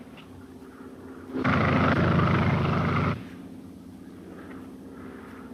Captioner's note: airplane buzzing